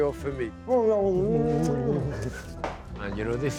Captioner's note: both laugh